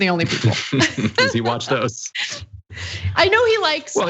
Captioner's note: laugh